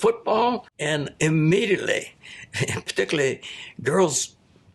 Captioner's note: chuckles